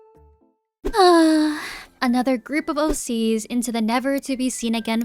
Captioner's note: sighhh